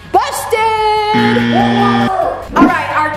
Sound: buzz sound

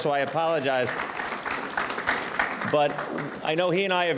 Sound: audience clapping

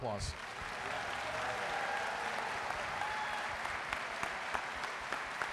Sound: audience cheering and applauding

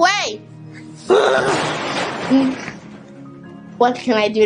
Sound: crashing

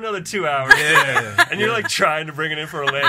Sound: laughs

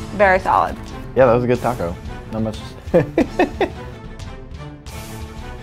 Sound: laughs

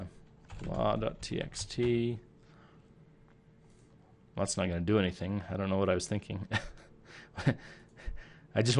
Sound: chuckle

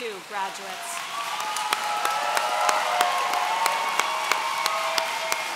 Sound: audience cheering

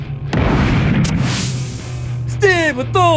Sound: cannonball whooshes over

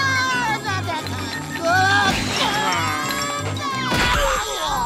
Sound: grunting

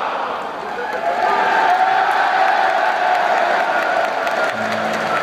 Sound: cheering and applause

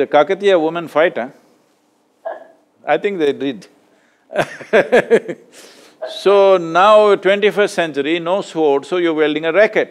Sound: Sindhu laughs; laughs

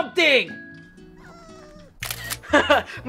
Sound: dog whimpers; camera shutter snaps

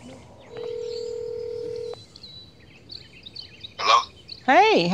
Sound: phone rings; phone beeps

